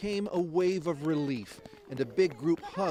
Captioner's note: applause